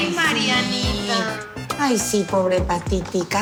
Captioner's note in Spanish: Exclamaciones